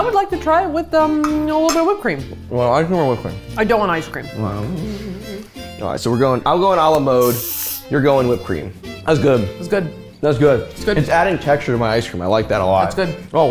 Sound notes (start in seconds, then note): 4.5 mumbles